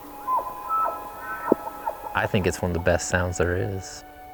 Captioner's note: elk bugling in distance